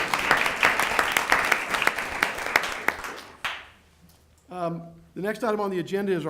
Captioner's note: applause